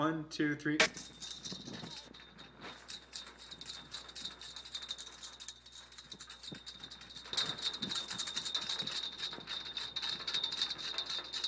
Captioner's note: jingling